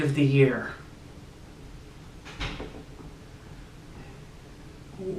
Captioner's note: long awkward pause